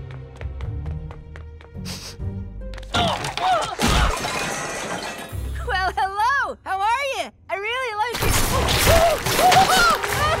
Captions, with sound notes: [sniffing] [groaning] Well hello, how are you? I really like your-- [screaming]